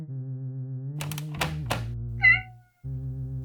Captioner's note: cat flap